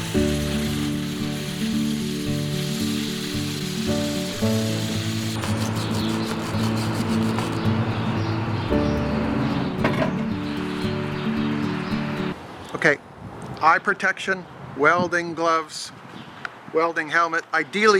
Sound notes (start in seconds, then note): 5.9 sanding noise